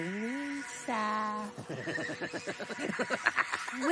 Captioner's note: evil laughter